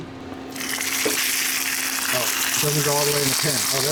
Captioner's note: meat sizzling